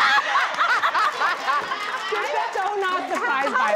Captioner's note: cheering